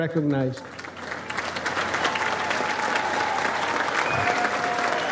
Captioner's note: audience applauds